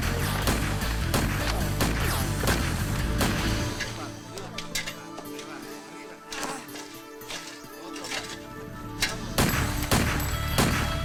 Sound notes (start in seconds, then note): 3.7 slow guitar music; 4.6 men speaking in foreign language; 9.0 gun fires; 10.1 slow dramatic music